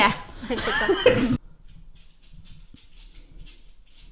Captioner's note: laughs